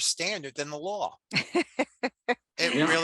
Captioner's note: laughs